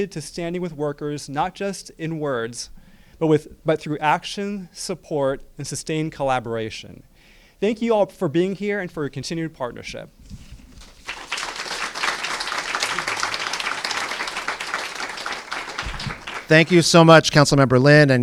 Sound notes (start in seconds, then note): 10.8 applause